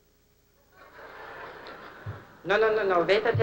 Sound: laughter

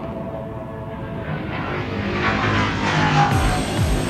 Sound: spacecraft buzzing

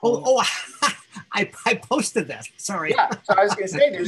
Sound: laughs

